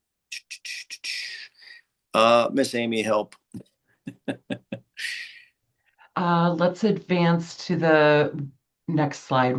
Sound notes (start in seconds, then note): 4.1 chuckling